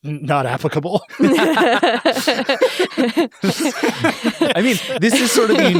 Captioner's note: everyone laughs